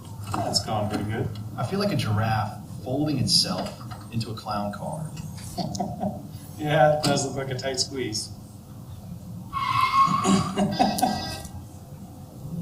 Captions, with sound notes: It's going good. I feel like a giraffe holding itself into a clown car. Yeah, it does look like a tight squeeze. (door creaks) (laughs)